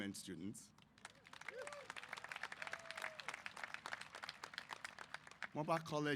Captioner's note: applause